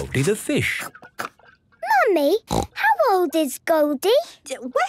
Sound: snorting

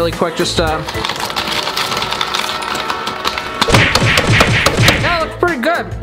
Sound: keyboard typing sound; punching sound effect

